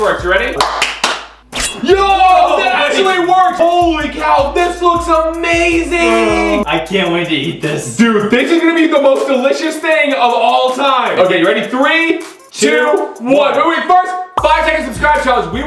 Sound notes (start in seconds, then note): 0.5 claps; 1.5 knife slices